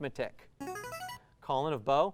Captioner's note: ringing